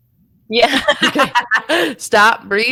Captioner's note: both laughing